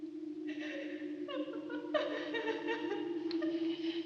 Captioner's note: sobbing continues